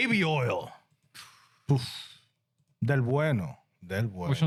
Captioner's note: speaking In Foreign Language